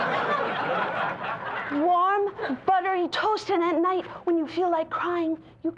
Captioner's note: laughter fades; laughter